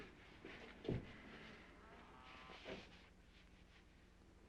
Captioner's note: cows mooing